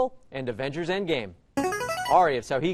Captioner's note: player buzzer